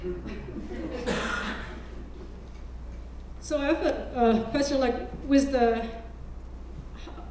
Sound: laugh

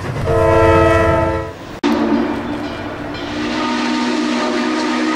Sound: train horn blaring

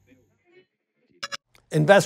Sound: digital blip

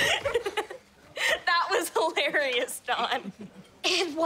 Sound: laughing

